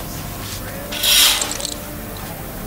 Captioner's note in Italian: Tenda che scorre